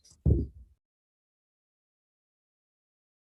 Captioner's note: gavel bangs